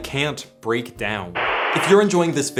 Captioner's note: static